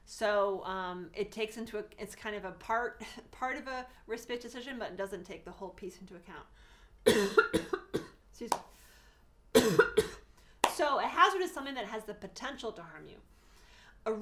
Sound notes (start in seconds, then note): 7.0 cough; 9.5 cough